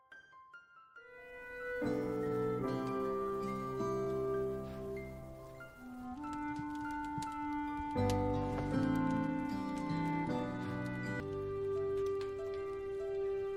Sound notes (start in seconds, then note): 5.0 fire crackling